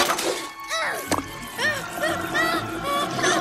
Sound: grunts

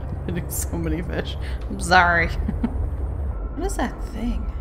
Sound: laughs

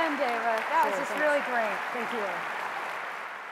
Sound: applause

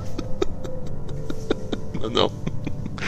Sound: laughters

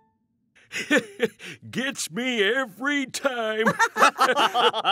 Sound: laughs; all laugh

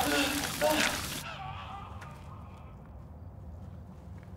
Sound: distant shouting

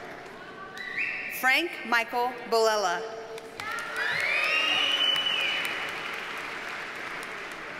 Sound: audience cheers and applauds

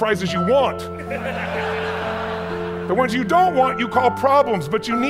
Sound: audience laughs

